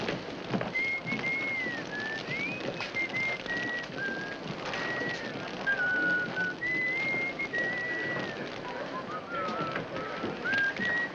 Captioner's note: fire crackling; Judge Crenshaw whistles